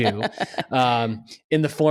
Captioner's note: laughs